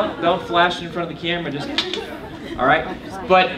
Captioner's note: clicks tongue